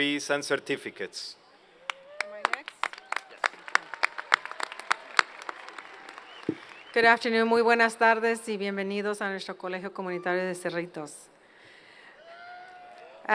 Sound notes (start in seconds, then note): 1.8 applause; 7.6 speaking Spanish